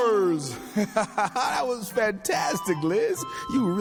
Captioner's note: laughs